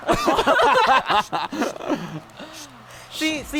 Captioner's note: laughter